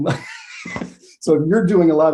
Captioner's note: laughs